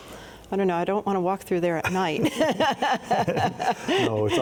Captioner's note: both laughing